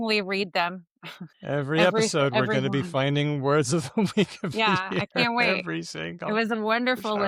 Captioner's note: laughs